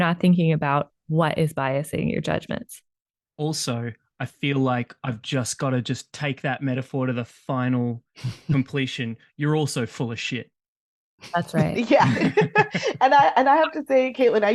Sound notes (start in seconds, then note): 11.5 laughter